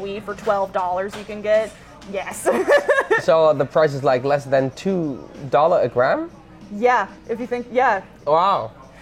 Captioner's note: laughing